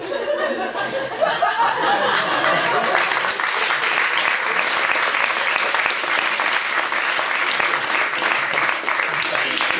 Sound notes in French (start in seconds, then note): 1.7 applaus public